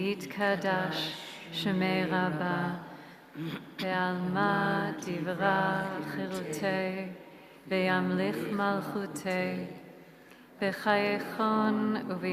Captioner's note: praying in hebrew/aramaic